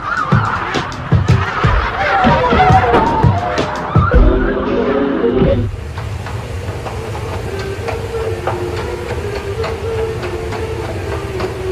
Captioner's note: laughter